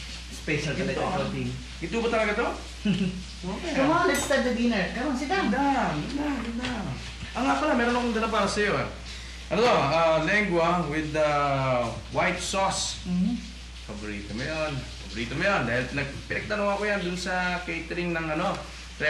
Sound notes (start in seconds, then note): 2.8 Mike chuckles